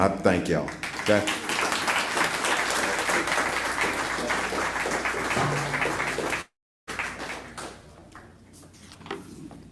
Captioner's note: applause